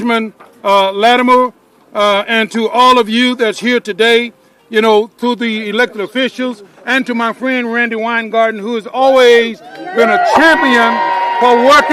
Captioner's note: cheering